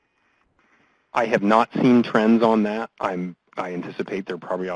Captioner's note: voiceover